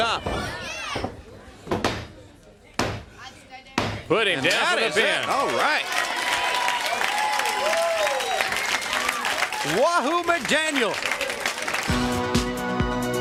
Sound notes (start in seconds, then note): 0.0 crowd chatter